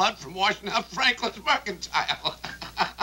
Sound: laughing

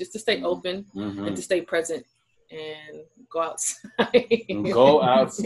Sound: laughs

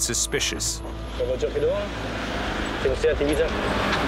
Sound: French spoken audio

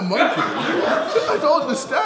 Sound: audience laughing

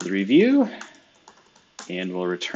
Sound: computer keyboard clicking

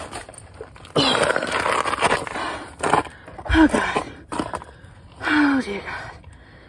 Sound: general sounds of struggle

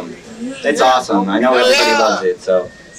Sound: man shouts

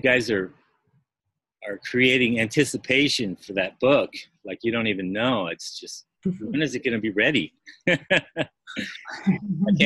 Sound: laughter

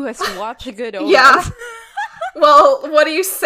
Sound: laughing

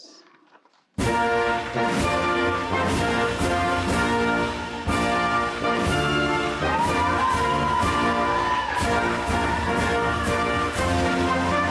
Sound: applause and Music

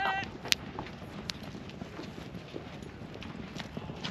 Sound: speaking in foreign language; footsteps; speaking in foreign language

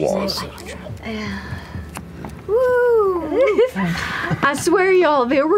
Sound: sighs; giggles

